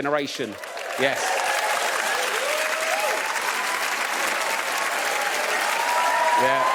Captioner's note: audience cheers